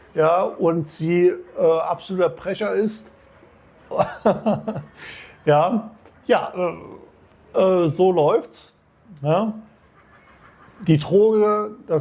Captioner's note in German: gelächter